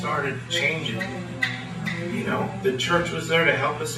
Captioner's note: fingers snapping